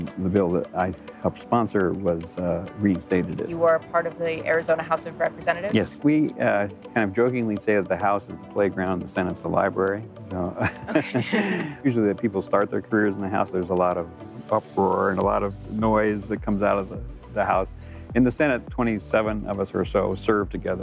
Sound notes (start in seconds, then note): 10.5 chuckling